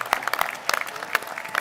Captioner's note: applause